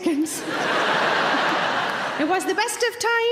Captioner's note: audience laughing; chuckles